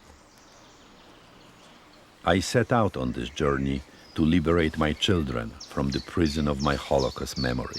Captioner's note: voice-over